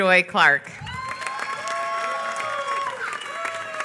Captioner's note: applause